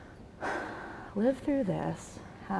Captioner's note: sighs